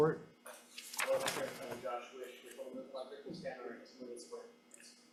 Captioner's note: speaks faintly